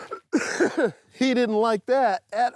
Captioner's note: laughs; coughs